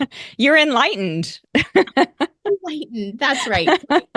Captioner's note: laughing